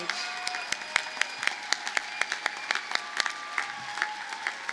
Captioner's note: audience cheers and applauds